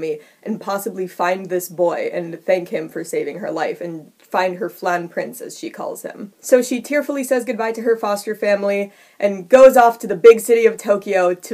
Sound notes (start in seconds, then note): none